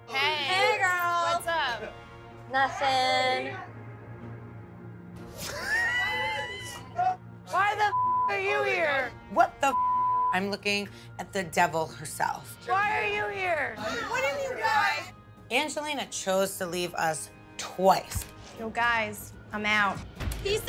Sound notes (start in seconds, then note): 5.9 Ronnie laughing; 9.7 beep